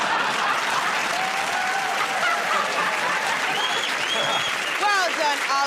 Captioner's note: laughing; cheers and applause